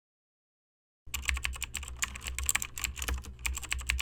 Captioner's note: keyboard clicking